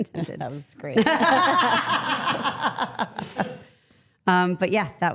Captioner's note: everyone laughs